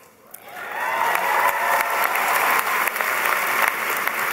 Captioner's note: applause